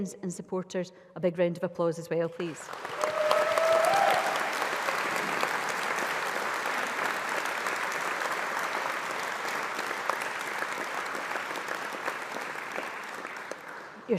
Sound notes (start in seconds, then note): 2.4 applause